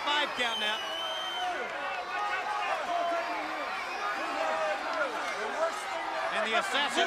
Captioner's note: crowd chatter